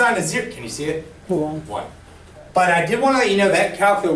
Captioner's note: voiceover